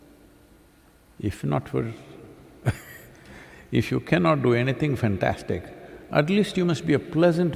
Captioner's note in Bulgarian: смях